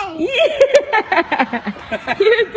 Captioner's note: mommy and Daddy laughing